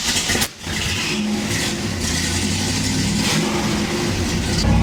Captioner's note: engine revs